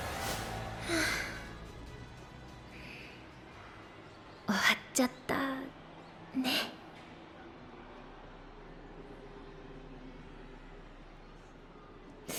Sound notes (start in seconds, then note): 0.8 sigh